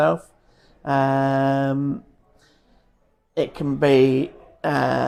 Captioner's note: laughs